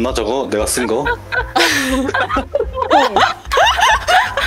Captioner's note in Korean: 다 같이 웃는 소리